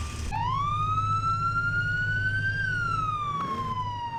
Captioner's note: car pulls up with sirens